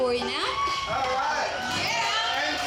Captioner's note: audience cheering